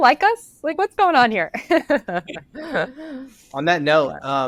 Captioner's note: laughs